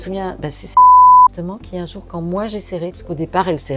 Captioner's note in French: bip